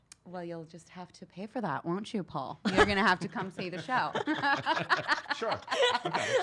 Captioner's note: laughs